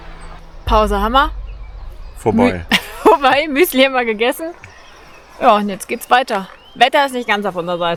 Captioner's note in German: gelächter